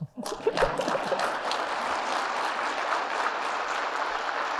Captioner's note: audience clapping